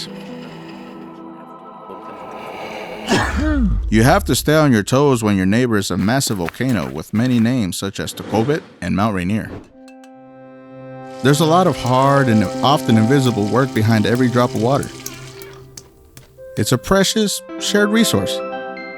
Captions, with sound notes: [low sneeze sound] You have to stay on your toes when your neighbor is a massive volcano with many names such as Tahoma and Mount Rainier. [uplifting music] There’s a lot of hard - and often invisible - work behind every drop of water. It's a precious, shared resource.